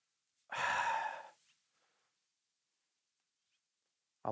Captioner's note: sighs